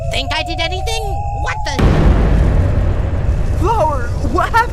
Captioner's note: loud bang